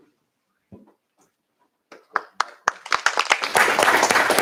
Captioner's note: applause